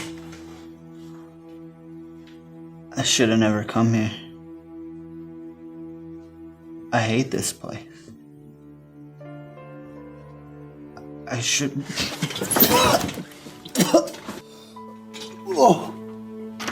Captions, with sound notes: - I should've never come here. I hate this place. I shouldn't. (Cole puking)